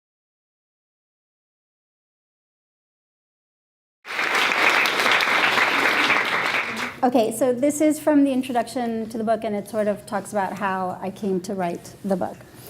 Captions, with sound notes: (audience applauding) - Okay, so this is from the introduction to the book and it sort of talks about how I came to write the book.